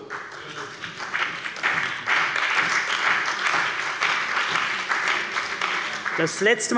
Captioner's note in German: Beifall bei der CDU und dem BÜNDNIS 90/DIE GRÜNEN